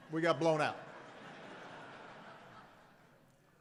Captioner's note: laughter